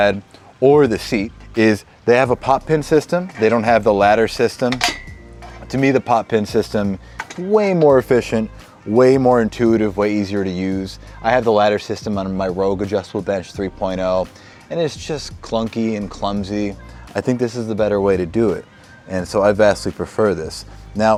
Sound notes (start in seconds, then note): 4.6 metal clanks